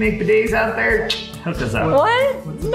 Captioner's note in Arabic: نقرات اللسان